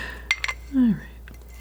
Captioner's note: scratching